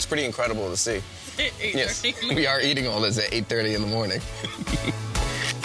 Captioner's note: laughs